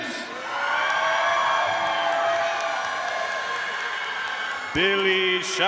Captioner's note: audience cheering and applauding